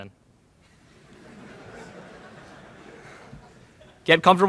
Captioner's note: laughter in the crowd